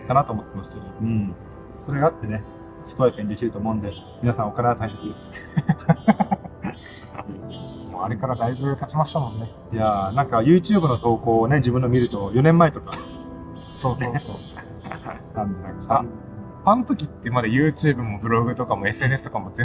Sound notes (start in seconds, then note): 4.9 laughs